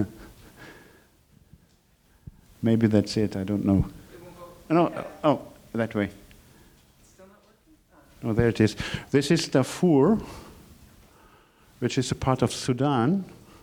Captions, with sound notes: (laughing) maybe that's it; I don't know. No, oh, that way. - [Woman's Voice] It's still not working? - Oh, there it is. This is Darfur, which is a part of Sudan,